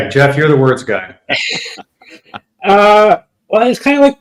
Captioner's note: laughs